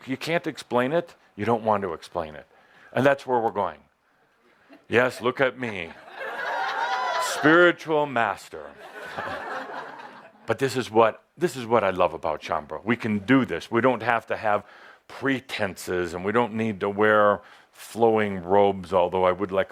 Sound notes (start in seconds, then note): 6.0 much laughter as Adamus poses with the hat on